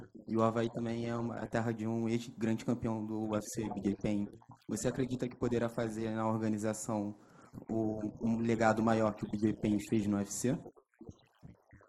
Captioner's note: speaking foreign language